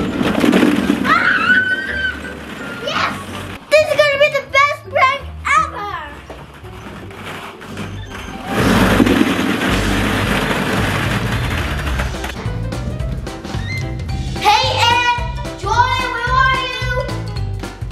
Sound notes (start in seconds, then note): 1.0 screaming; 8.9 balls rolling down